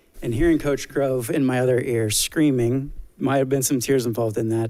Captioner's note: none